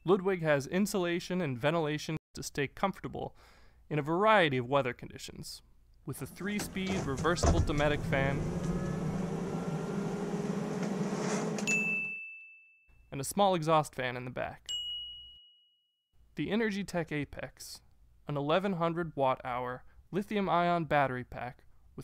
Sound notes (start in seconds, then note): 8.8 fan blowing; 11.6 bell rings; 14.7 bell rings